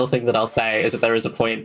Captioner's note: laughs